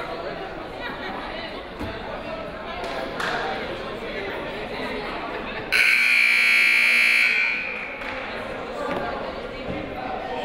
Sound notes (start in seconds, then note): 5.7 buzzer